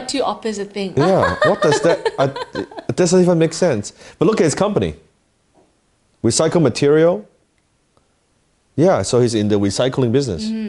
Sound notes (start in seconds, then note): 1.0 laughs